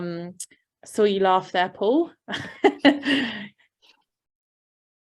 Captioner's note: laughing